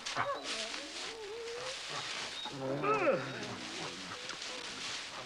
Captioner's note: yawns